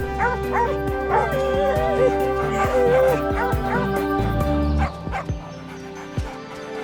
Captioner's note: rousing music; Hank barking